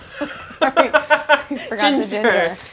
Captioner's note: laughing